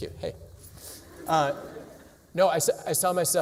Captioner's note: laughter